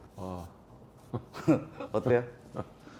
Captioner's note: laughs